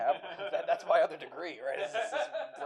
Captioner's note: laughter